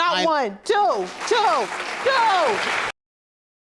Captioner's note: audience applauding